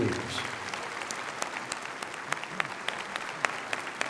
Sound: applause

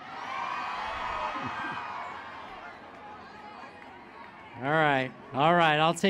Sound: applause

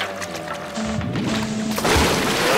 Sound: foghorn blowing

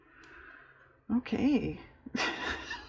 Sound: laughs

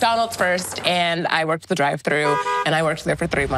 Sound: car horn honks

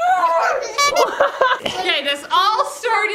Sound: laughs

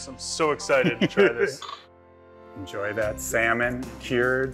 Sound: laughs

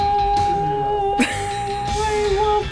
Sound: crying; laughing

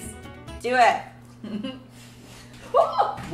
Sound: laughs

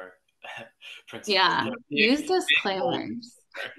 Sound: laughs

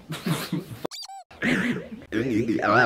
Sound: squeaking

